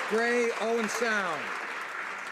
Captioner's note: some Applause